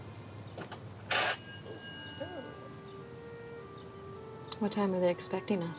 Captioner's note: bell buzzing; couple exclaiming